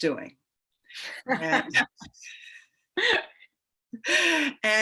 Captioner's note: women laugh